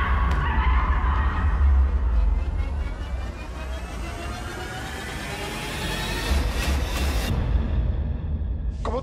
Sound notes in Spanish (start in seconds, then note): 2.5 Habla entre dientes